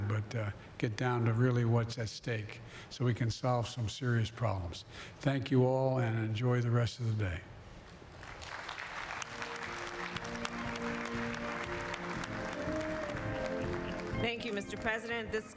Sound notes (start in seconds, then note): 8.1 applause